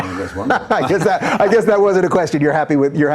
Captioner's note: laughing